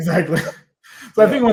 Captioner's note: laughs